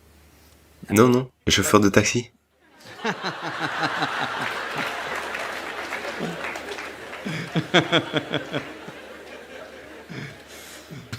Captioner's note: laughs; applause